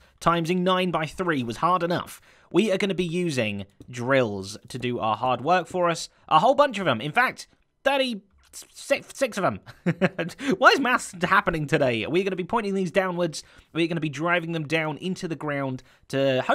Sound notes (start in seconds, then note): 9.7 chuckles